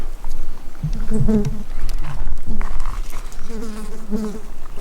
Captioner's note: buzzing flies